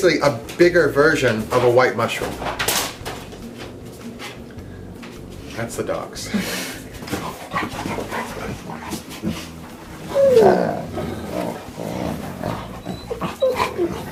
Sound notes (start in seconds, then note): 3.2 scuffing sound; 6.2 laughs; 7.0 friendly growling